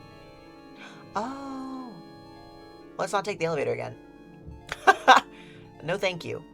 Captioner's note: laughs